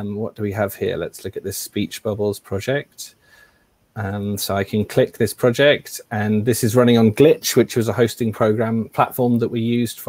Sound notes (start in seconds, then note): none